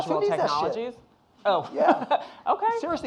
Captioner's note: laughing